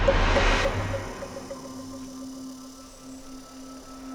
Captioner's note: insect and bird chirps